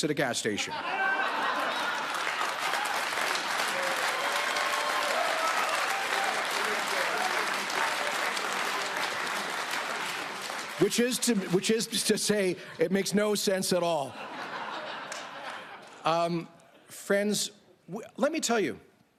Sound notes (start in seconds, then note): 6.5 applause